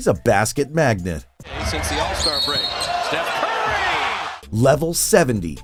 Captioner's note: game audio